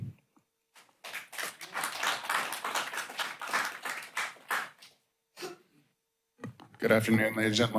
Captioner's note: applause